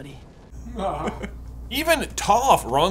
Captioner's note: laughs